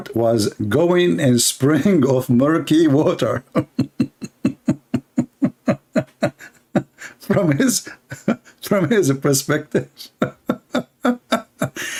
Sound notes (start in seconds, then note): 3.2 Ketawa